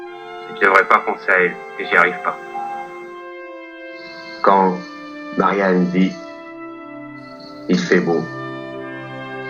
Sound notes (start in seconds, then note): 0.2 voiceover of man speaking in french; 4.4 voiceover of man speaking in french